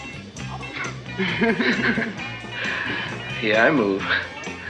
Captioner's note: chuckling